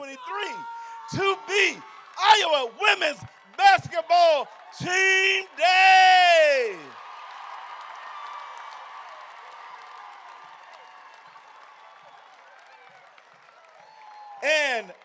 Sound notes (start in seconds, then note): 7.1 crowd cheering